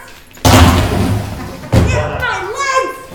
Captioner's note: bag thudding